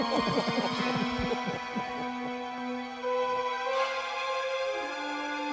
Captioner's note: magicians chuckling; suspenseful music